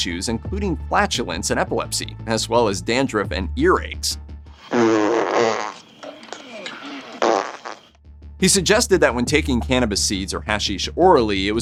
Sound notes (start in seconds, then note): 7.1 farting